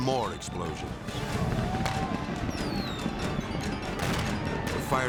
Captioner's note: people yelling; fireworks exploding